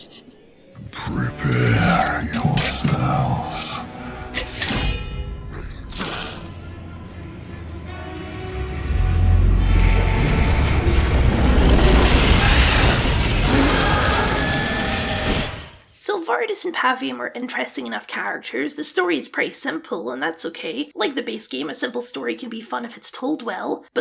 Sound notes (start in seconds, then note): 8.3 stampede Noise; 8.4 horrifying yell